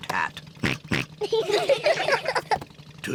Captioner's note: oinks; all laugh